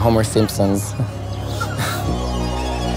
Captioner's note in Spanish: se ríe